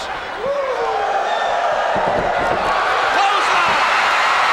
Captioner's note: crowd woos; crowd cheers